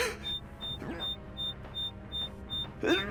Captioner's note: choking